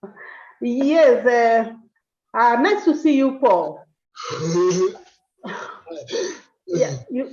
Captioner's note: laughs